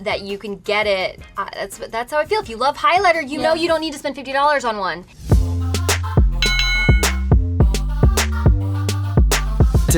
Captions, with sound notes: that you can get it, that's how I feel. If you love highlighter you know you don't need to spend $50 on one. (upbeat music) (boxing bell ringing) (upbeat music)